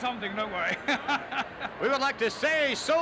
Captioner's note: laughs